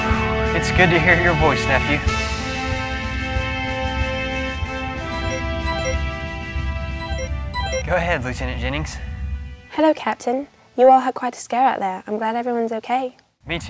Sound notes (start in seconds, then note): 5.6 tone ringing